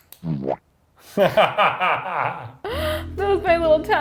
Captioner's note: laughs